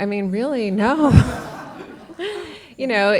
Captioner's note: laughter